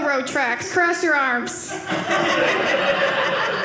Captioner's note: audience laughing